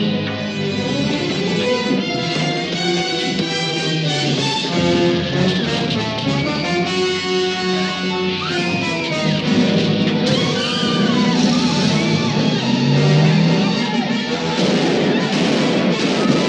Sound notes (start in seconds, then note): 4.7 women screams; 12.9 onlookers yell; 14.4 gunfire pops